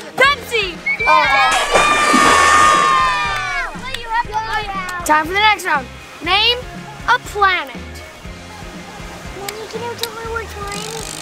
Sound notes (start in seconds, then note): 0.9 screaming; 1.2 splash